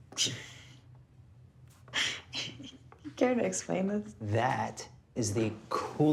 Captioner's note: laughing